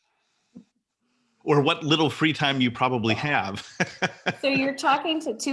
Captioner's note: laughs